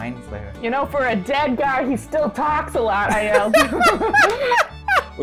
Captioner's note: laughter